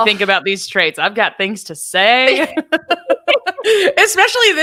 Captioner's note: both laughing